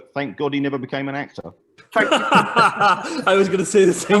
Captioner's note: laughter